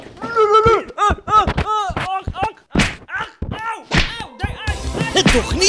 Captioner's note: punches and screams